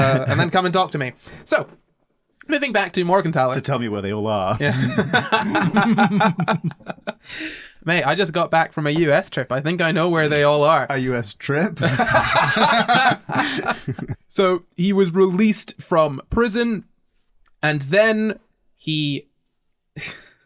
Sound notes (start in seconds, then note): 14.7 laughter